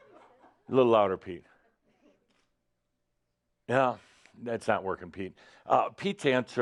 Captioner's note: slight pause